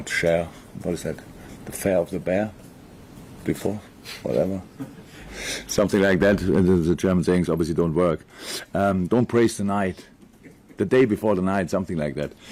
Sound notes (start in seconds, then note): 7.8 in English